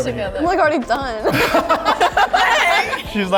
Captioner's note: everyone laughs